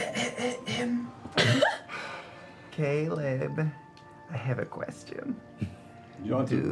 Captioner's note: clears throat